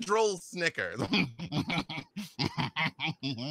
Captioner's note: laughs